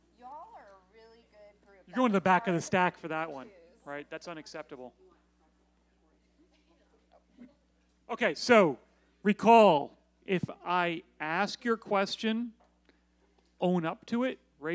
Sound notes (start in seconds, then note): none